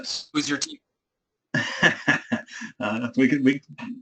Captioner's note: laugh